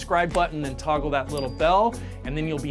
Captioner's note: bell dings